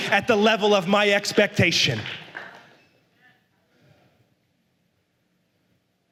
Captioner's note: la congregación aplaude